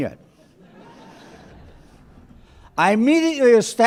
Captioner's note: laughter